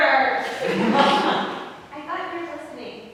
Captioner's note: audience laughs